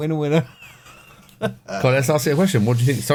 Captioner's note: laughing